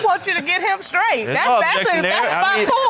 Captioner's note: laughing